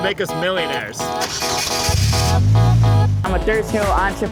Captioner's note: car engine roaring